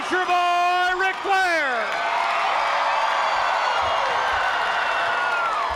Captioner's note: crowd cheers